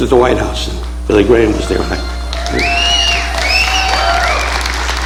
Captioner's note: audience applauding